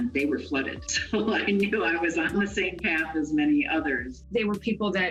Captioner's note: laughs